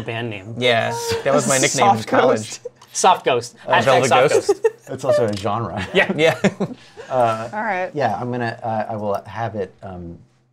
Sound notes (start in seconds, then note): 4.7 laughs; 8.2 stammers